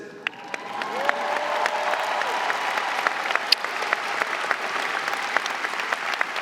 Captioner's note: audience cheering and applauding